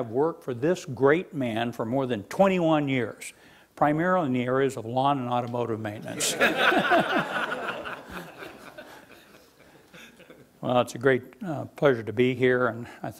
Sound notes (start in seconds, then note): 6.1 laughing